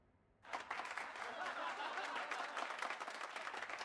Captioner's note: crowd applauds; crowd laughs